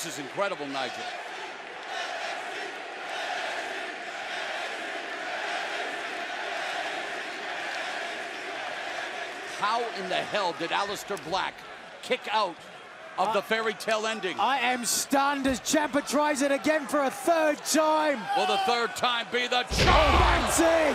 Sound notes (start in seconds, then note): 2.6 fans chanting